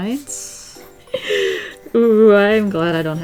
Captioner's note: deep inhale